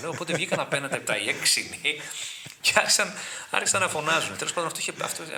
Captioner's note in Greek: γέλια